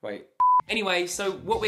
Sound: beep

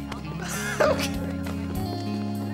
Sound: chuckles

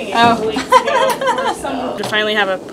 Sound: laughing

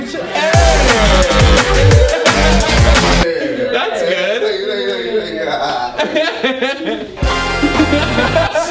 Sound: laughs

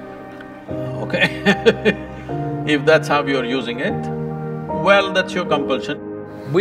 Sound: laughs

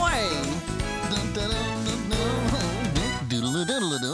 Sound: humming

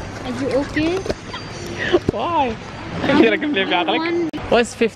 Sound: giggles

